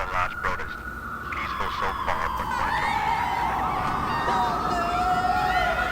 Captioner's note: screams in the distance